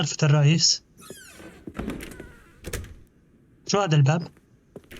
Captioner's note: door creaks